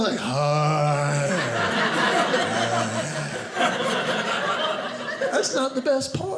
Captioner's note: audience laughing